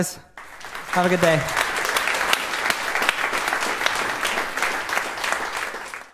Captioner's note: applause